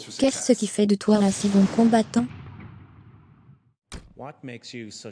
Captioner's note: jet engine revving